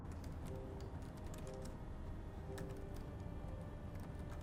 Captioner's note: typing on laptop